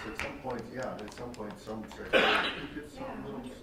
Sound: coughing

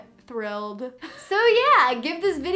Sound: laughing

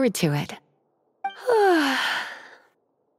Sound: yawn

